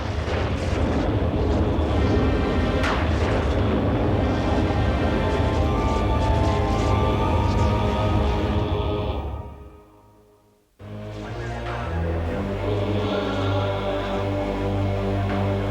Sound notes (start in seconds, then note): 2.3 thunderclap